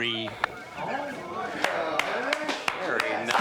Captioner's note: murmuring